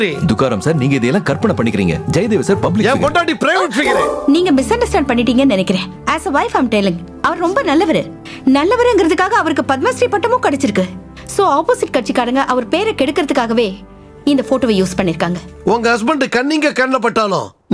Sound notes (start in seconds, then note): none